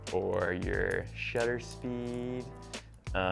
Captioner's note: none